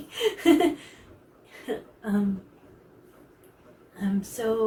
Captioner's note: embarrassed laugh